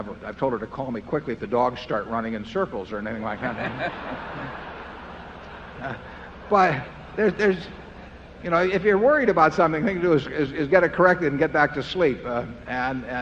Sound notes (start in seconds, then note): 3.2 laughter